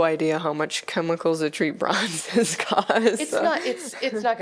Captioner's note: laughter